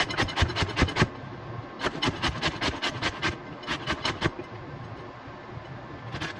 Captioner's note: more grating